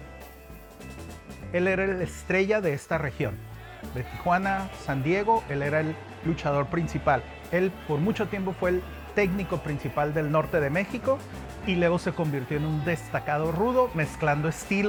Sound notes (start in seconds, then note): 1.6 music, crowd cheering; 1.6 speaking Spanish